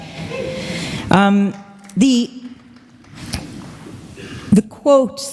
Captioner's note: applause